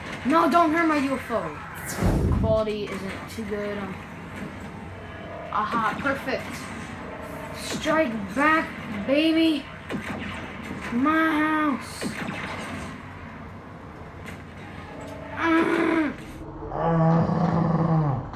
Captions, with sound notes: No! Don't hurt my UFO! ...quality isn't too good... Aha! Perfect! Strike back, baby! My house! [Prolonged grunt] [Slow motion sounds]